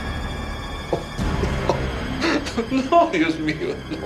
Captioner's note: crying; speaking Spanish